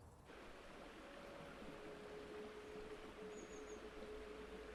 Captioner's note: rushing water; gentle music